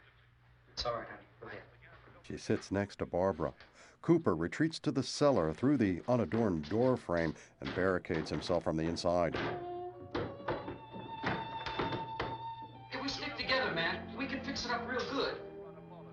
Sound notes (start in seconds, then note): none